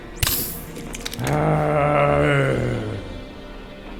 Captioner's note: groaning